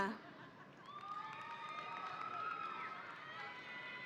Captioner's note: audience cheering